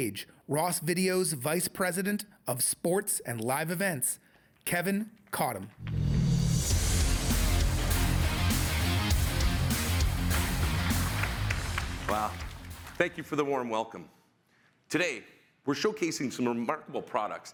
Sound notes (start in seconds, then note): 5.6 crowd applauds; 5.9 upbeat music